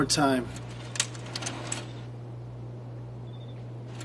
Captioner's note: clicking